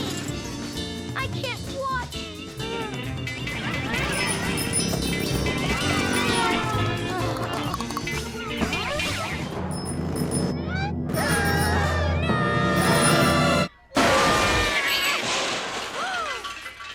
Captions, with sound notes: I can't watch! (bells ringing) (car zooming) (teeth chattering) (bells ringing) (children screaming) - No! (squirrels crashing)